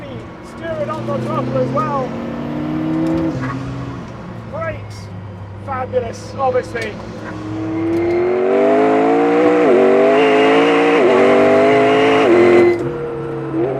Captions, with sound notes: Really steer it off the top as well. Wait five minutes obviously. (engine roaring)